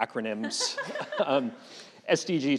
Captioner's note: chuckling